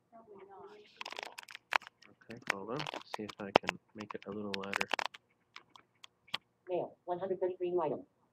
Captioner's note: static